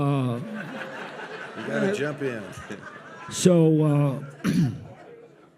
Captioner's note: audience laughs